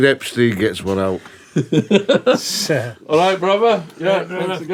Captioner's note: laughing